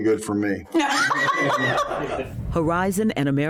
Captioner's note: laughing